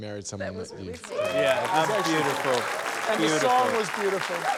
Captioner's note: cheering, applause